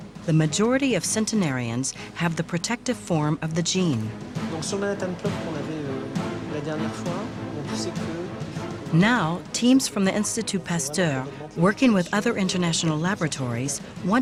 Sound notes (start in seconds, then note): 4.4 French spoken audio